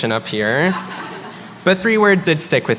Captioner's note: laughter